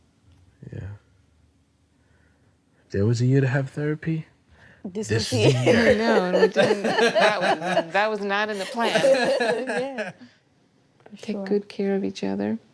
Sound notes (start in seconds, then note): 5.2 laughter